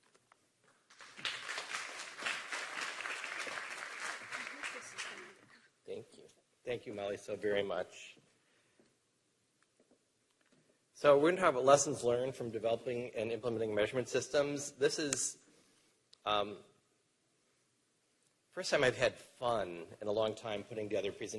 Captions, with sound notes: SO DR. RICHARD GERSHON. [ APPLAUSE ] >> THANK YOU. SO WE'RE GOING TO TALK ABOUT LESSONS LEARNED FROM MEASUREMENT SYSTEMS. THIS IS -- FIRST TIME I HAD FUN IN A LONG TIME PUTTING TOGETHER